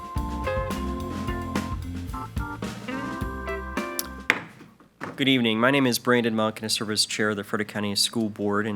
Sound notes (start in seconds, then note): 4.2 gavel bangs